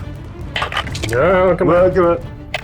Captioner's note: dice rattling; exhaling